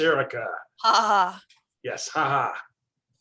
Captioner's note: laughs